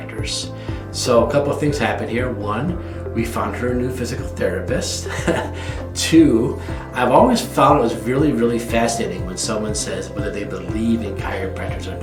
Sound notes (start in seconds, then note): 5.0 laughs